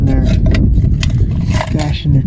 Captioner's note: wind blowing